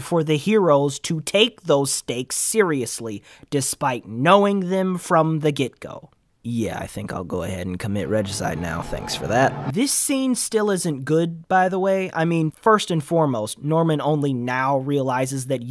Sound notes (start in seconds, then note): none